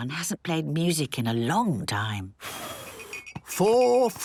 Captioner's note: blows